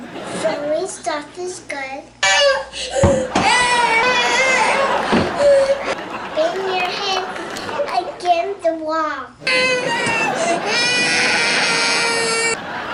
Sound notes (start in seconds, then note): 2.9 cries and shoes clattering; 9.8 thuds and loud crying